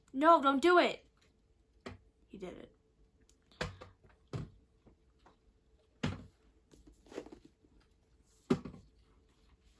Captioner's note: small thunk; larger thunk